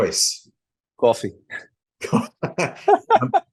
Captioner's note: laugh; laughs